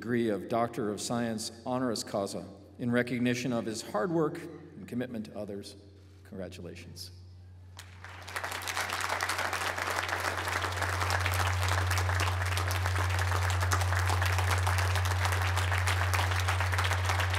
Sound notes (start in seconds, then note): 8.6 applause